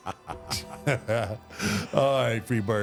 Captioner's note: The Undertaker laughs; Michael laughs